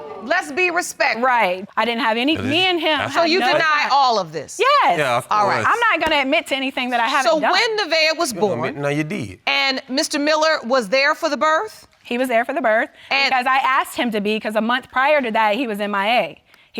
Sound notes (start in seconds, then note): 1.8 mutters